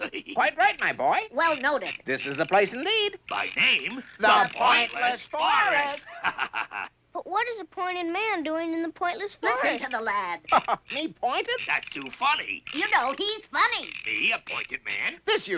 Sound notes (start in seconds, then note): 6.1 laughs; 10.4 chuckles